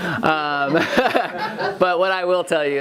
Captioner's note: laughing